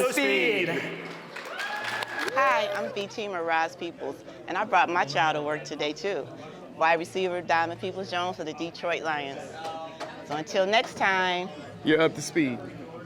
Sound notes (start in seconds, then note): 0.9 applause